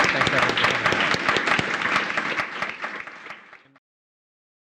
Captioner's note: applause